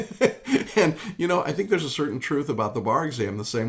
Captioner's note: laughs